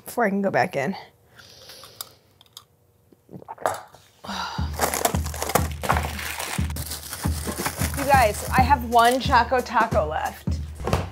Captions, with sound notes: before I can go back in. [sighs] You guys I have one choco taco left.